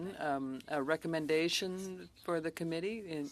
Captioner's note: speaking French